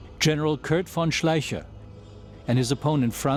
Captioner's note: none